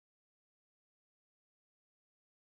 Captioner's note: none